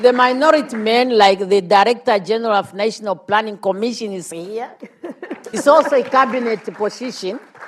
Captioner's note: laughs